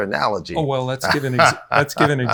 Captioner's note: laughs